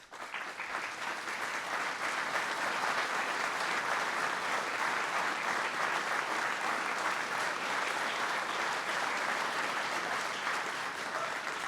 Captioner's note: applause